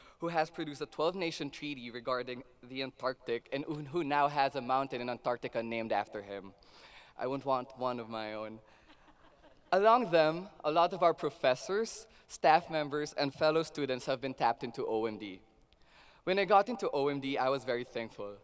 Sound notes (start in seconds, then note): 8.8 laughter